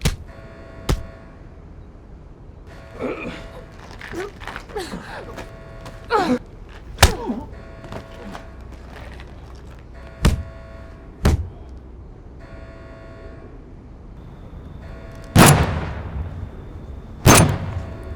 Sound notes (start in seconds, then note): 0.0 alarm blaring; 0.3 fighters moaning; 2.6 alarm blaring; 15.7 gun firing